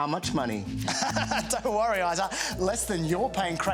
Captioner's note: laughs